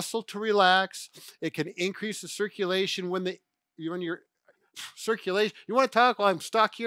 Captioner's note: stammers